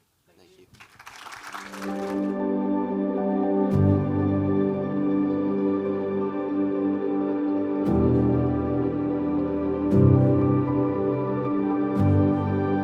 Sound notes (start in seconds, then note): 0.5 audience applauding; 2.2 uplifting music